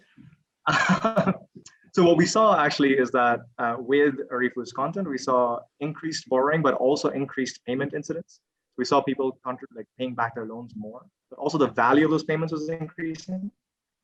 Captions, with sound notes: (laughs) What we saw actually is that with Arifu's content, we saw increased borrowing, but also increased payment incidents. We saw people paying back their loans more, but also the value of those payments was increasing.